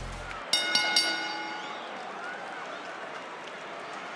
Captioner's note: bell rings